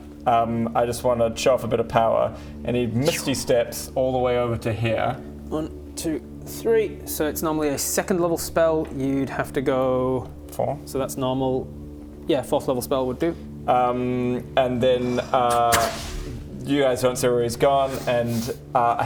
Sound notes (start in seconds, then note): 15.5 epic teleportation noises